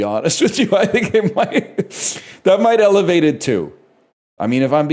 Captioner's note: laughs; cracks up